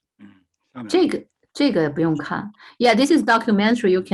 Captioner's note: speaking in foreign language